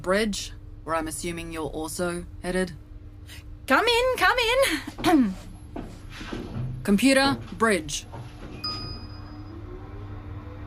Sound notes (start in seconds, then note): 2.3 Awkward shuffling as Sim enters the lift. The door shuts